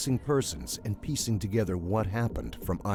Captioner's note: voiceover